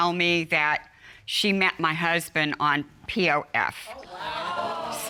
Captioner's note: audience exclaims